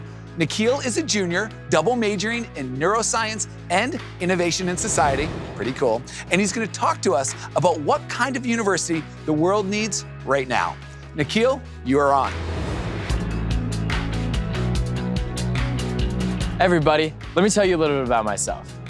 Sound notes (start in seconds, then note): 15.3 transition whooshes; 15.3 upbeat music